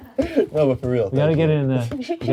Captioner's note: crew laughs